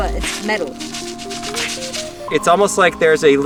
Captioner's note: metal clanking